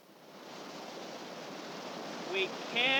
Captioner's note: sound of rushing water